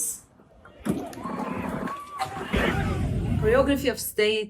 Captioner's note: protestors yelling